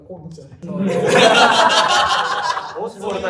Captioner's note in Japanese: 笑い声